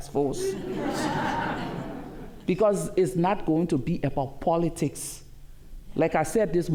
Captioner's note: laughter